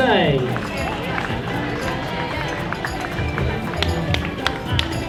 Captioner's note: crowd applauding